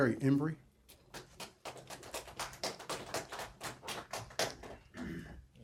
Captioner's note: applause